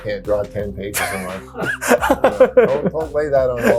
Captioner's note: person laughs